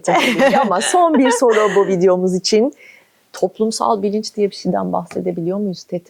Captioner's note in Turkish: kahkaha